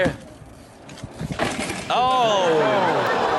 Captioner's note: bike crashes; audience groans